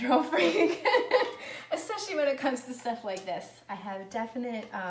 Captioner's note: laughs